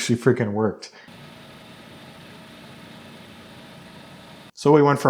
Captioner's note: machinery whirring